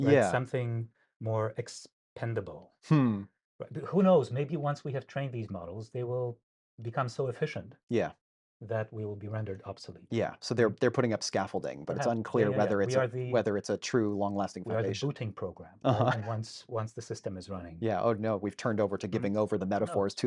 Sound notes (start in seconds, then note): 15.8 laughs